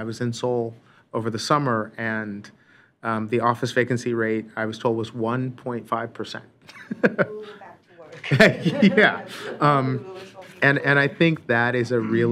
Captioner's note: laughter